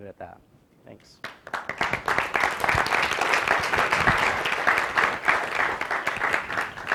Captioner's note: applause